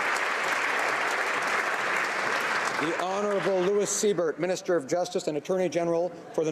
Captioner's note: applause